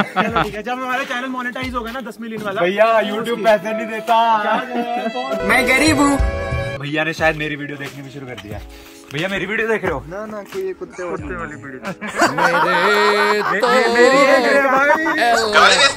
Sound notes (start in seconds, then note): 4.4 dramatic cries